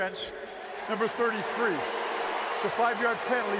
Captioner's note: cheering